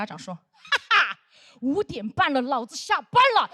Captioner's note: laughing